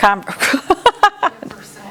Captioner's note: laughter